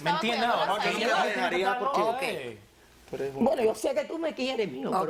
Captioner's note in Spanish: Hablan al unísono